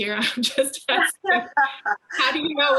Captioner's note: laughing